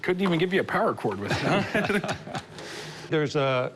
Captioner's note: laughter